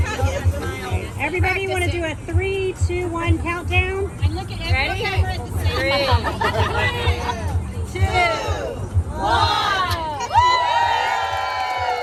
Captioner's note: applause